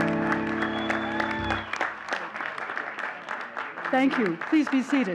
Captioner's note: all cheering and clapping